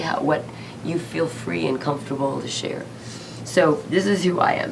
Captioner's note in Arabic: none